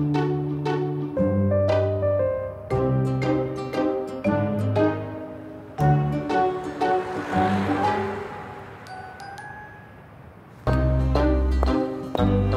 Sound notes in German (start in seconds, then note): 6.9 Vorbeifahrendes Auto; 11.5 Schritte